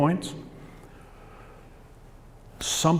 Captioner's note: pause